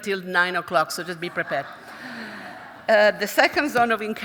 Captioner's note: audience chuckling